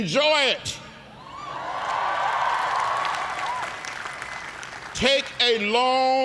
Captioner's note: cheers and applause